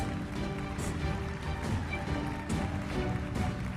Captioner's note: audience applauding; audience cheering; uplifting music continues